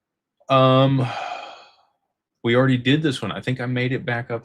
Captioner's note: sighs